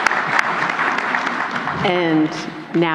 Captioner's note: applause